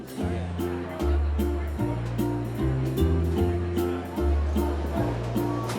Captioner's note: guests chattering; uplifting music